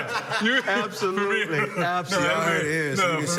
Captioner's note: laughter